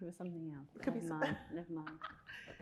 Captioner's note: chuckles